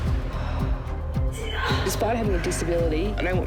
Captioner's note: grunts